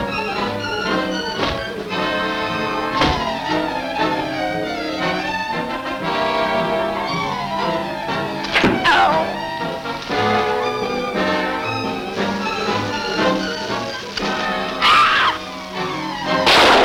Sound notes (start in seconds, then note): 0.2 blows cracking; 9.0 man groans; 14.8 Diana screams